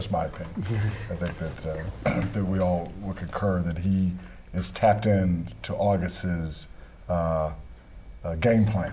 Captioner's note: laughter